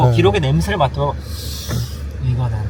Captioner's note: sniffs